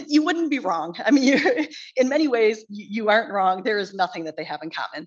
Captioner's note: chuckles